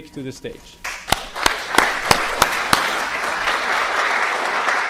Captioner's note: audience clapping